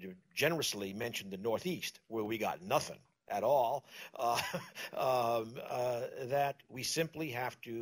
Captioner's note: laughs